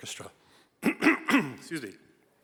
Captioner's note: coughs